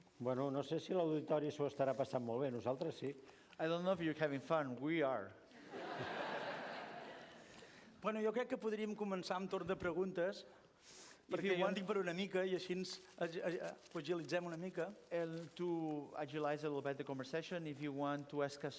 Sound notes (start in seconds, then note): 0.8 non-english speech; 5.6 laughter; 9.1 non-english speech